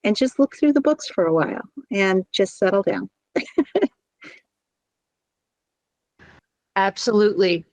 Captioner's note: laughs